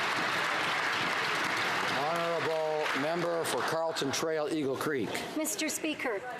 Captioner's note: some Applause